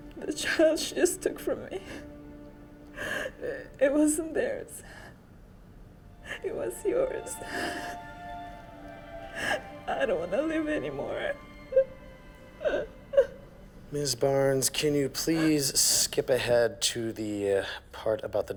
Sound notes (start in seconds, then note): 12.3 sobbing